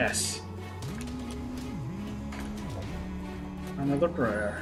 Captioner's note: humming along